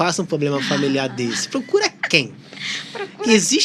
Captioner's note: risadas